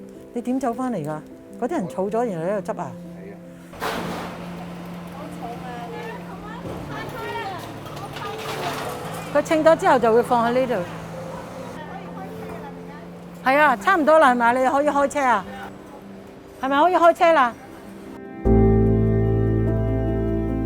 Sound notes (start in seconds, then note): 3.9 sound of pushcart wheels on pavement